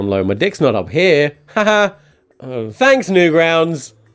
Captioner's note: laughing